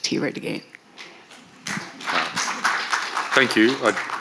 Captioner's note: audience applaud